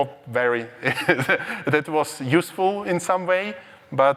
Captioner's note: laughs